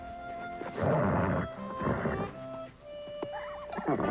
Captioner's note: horse nickering